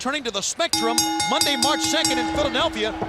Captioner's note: bell ringing